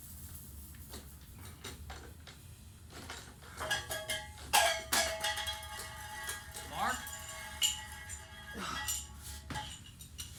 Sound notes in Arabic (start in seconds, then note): 3.5 قعقعة